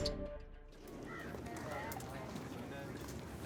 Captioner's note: bird crowing